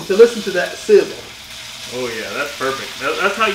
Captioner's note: meat sizzling